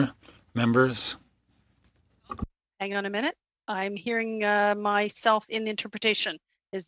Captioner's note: speaking French